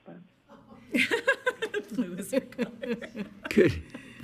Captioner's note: board members laughing